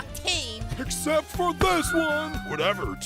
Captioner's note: ice cube cries